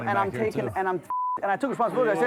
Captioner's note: beep